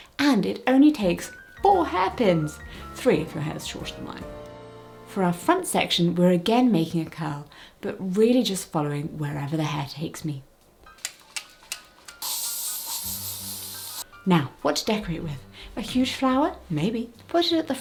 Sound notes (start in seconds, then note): 12.1 hairspray clicking; 12.2 hairspray hissing